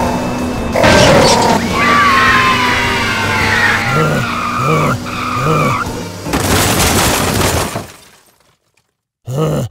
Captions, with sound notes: YAAAAAAAAAY! [CAR CRASH] DONT DRIVE CARS IF YOU ARE UNDER 18+ KIDS